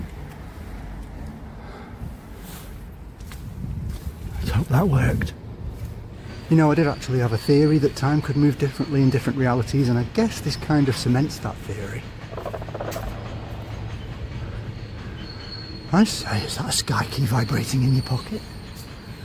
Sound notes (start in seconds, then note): 12.3 sky key vibrates